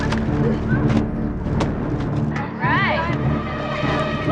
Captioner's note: grunting